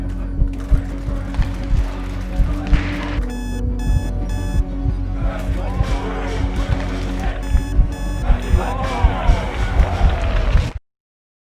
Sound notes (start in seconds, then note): 0.9 team chanting; 2.3 alarm beeping; 4.7 dramatic music; 6.5 team chanting; 7.5 alarm beeping; 8.7 dramatic music